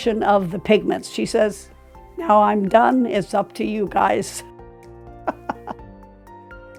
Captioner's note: chuckling